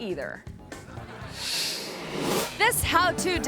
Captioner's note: audience laughing